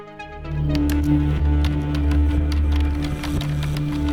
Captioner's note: eerie music; typing